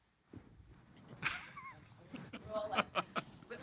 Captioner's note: laughing